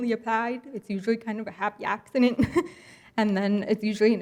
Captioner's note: laughs